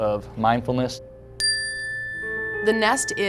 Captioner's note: chiming